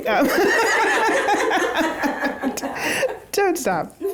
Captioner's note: laughs; all laugh